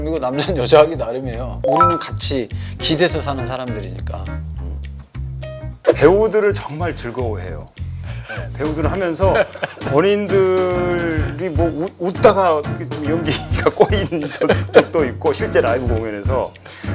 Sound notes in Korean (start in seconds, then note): 9.3 웃음; 13.9 웃으며; 14.1 계속되는 웃음